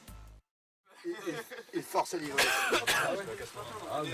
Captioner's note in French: des gens discutent et rient